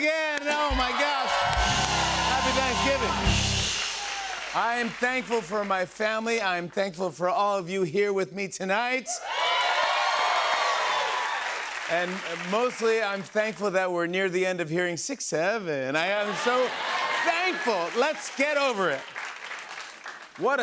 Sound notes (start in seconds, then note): 9.1 cheers and applause